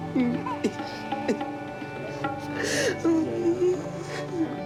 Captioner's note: sobbing